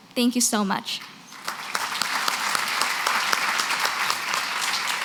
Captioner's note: applause